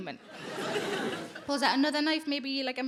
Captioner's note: audience laughing